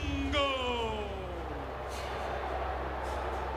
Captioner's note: crowd boos